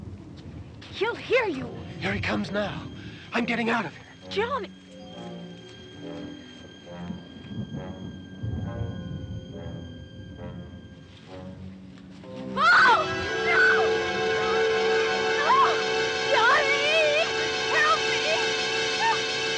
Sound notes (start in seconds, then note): 12.5 screaming